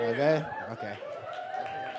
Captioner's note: audience applause